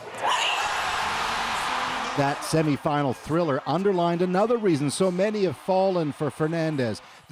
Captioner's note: cheers and applause